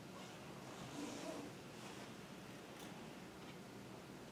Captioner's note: zip zipping